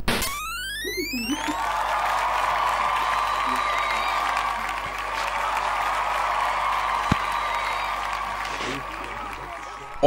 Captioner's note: the crowd cheers and applauds